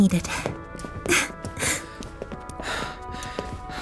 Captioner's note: laughs tearfully; panting softly